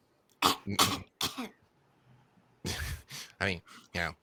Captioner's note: coughs